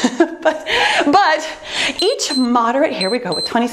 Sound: timer beeps

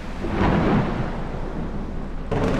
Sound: thunder Rumbles

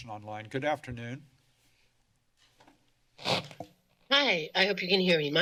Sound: rustling

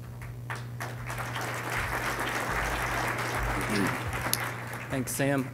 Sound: applause

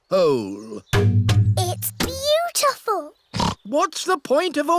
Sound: oinks

